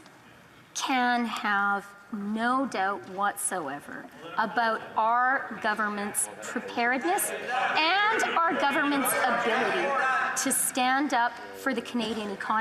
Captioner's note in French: voix de l'interprète